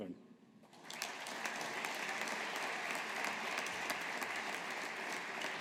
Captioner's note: audience applauding